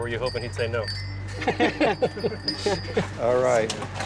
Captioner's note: laughter